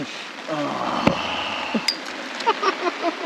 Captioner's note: groaning; team member laughing